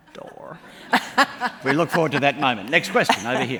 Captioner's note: laughs